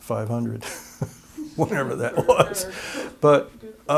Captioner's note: laughter